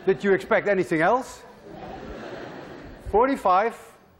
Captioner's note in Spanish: ríen estudiantes